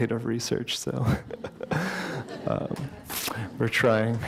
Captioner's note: laughter